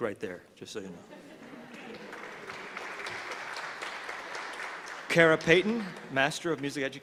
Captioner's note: laughter; applause